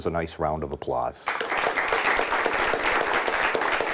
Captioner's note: applause